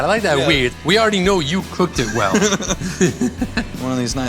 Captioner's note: both laugh